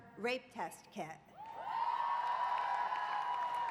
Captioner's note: applause